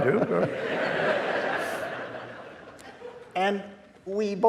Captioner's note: audience laughing